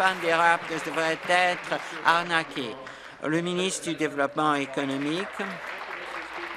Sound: applause

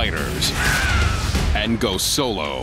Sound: scream

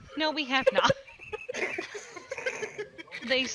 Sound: bust out into a fit of laughter

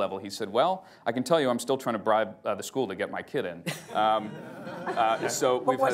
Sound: laughter

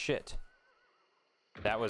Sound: gunshot

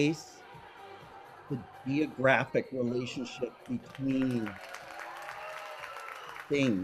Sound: audience applauds

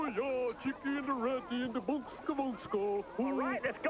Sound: speaking swedish

